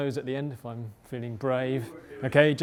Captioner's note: crowd murmur